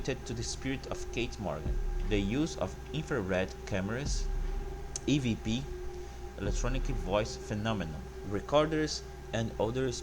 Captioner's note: electronic Voice Phenomenon